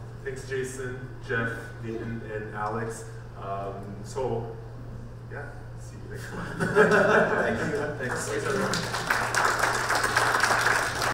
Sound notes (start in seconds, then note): 6.4 panel laughs; 7.6 audience applauds